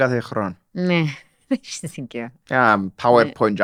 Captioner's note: laughs